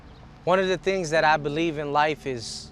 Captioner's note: cars revving